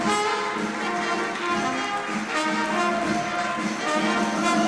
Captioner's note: applause